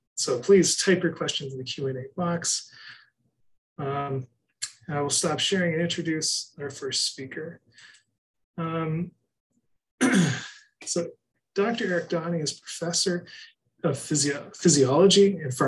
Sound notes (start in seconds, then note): 10.0 clears throat